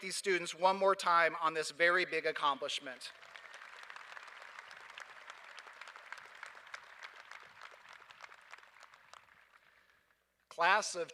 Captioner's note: applause